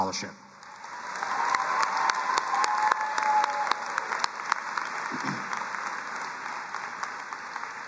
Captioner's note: both applauding